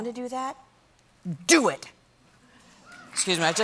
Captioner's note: applause